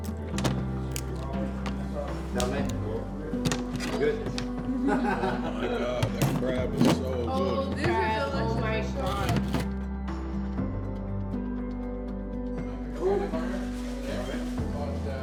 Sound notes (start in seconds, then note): 0.2 knife chopping food; 4.4 group laughing